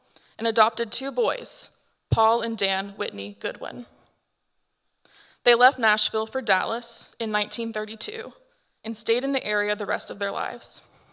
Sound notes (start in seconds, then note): none